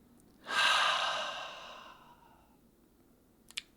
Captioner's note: inhales; exhales